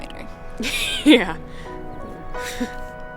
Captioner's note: laughs